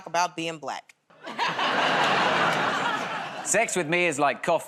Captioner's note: laughter